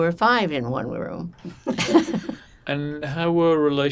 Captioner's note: laughing